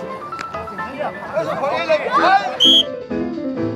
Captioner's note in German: Anfeuerungsrufe